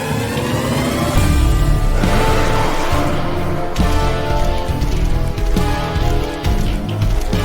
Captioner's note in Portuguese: música intensa; monstro rugindo e passos pesados